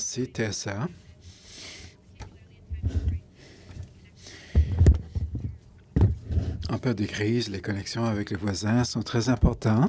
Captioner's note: speaking in French